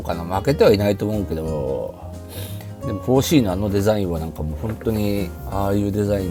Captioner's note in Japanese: 鼻息